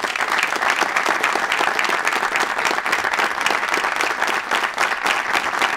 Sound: applause

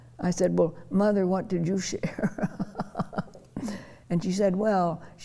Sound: laughing

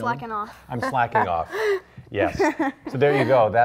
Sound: laughs

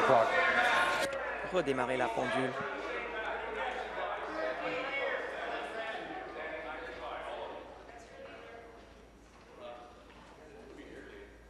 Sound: conversation din

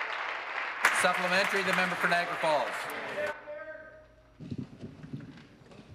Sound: applause

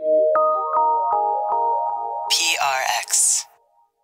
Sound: digital chiming

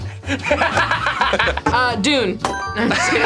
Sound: laughs; bell dings; laughs

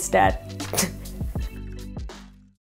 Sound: laughs

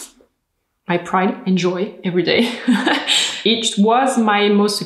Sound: laughs

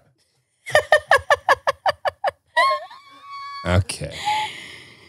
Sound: laughing

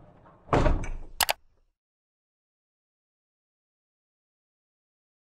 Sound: computer mouse clicking

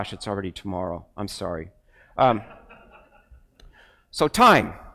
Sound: crowd laughs

